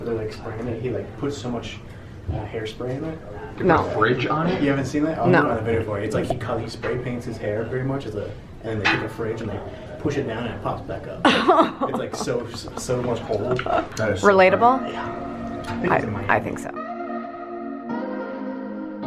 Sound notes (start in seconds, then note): 11.2 laughs; 15.7 upbeat ambient music